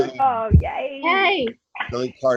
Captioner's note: cheering